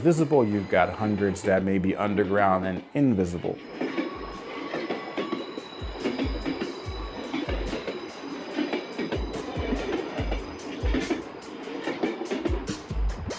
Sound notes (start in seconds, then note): 3.8 train clacking